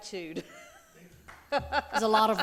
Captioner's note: laughing